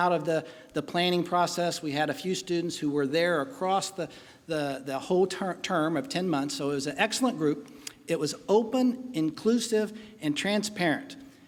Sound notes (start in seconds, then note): none